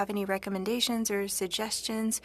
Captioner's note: speaking french